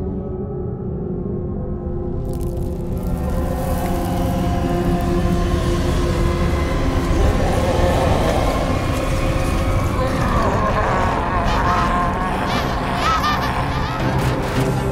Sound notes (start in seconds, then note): 6.2 Aquila screams in rage; 10.3 Gang laugh as they run off